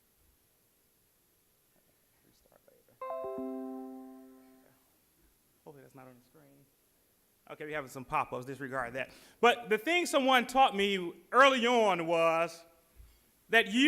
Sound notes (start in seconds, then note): 3.0 Windows Jingle chimes